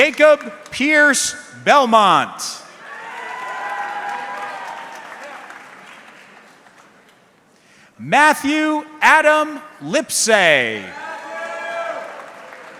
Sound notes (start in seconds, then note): 2.8 audience cheering